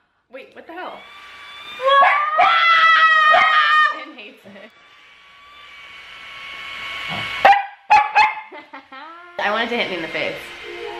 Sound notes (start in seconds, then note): 2.0 dog barking